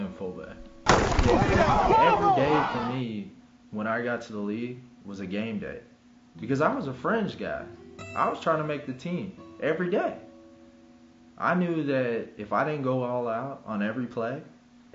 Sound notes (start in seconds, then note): 0.8 bodies slamming together; 1.2 men shouting